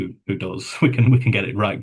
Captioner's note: chuckles